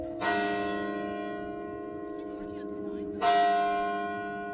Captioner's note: bells ringing continues